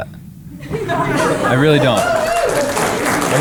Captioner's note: crowd applauding